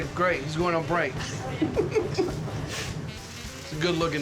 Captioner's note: laughter